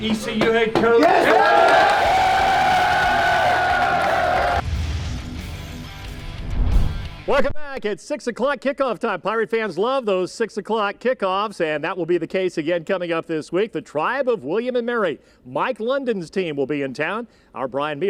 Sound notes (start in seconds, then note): 1.0 cheers and Applause